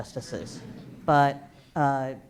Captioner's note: laughter